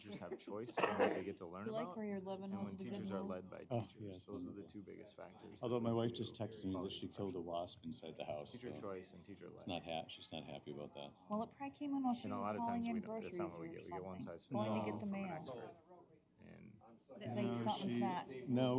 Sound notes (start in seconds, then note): 2.4 indistinct chatter